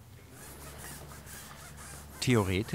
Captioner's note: wiping noise